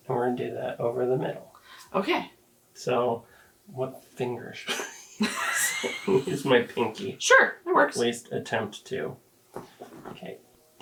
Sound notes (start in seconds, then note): 4.6 both laughing